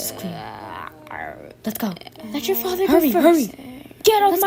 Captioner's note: growling in background